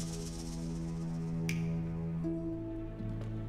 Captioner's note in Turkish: Parmak şaklatma sesi